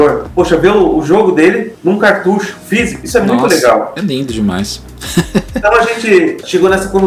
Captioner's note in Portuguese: risadas